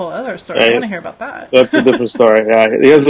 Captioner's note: laughs